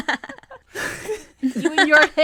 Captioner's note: all laugh